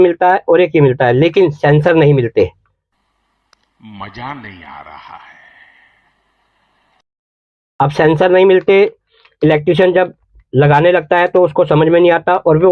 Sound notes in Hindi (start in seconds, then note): 5.2 गहरी सांस लेने की आवाज़